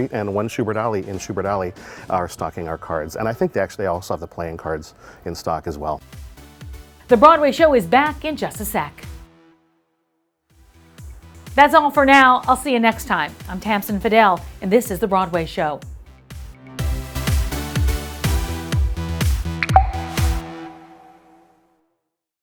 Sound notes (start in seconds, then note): 15.5 upbeat music; 19.5 water dripping